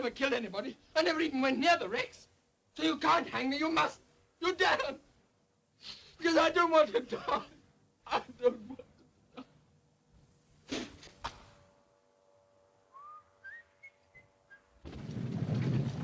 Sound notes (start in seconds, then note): 8.0 sobs; 12.9 Harry whistles